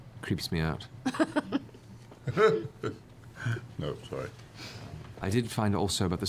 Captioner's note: laughs